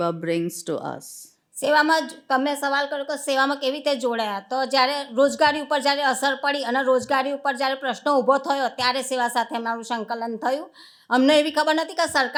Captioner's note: speaking gujarati